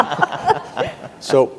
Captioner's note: participants laughing